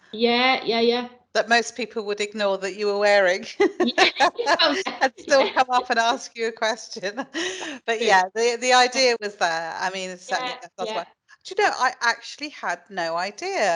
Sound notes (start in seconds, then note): 3.4 light laughter